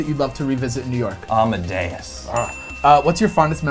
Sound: bell dings

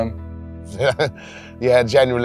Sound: chuckling

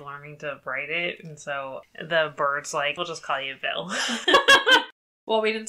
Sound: laughs

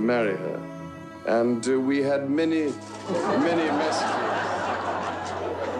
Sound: crowd laughing

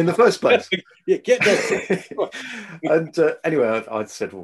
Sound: both laugh

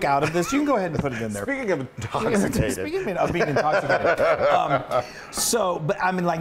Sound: laugh

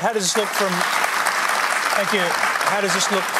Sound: applause

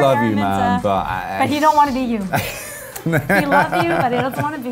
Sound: laughs

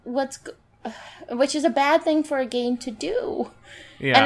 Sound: sigh

